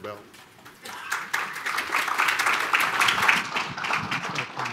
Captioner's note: applause